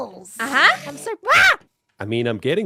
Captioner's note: enderman noises